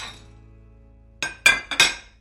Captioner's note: dishes clatter